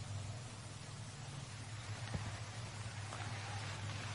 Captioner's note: water falling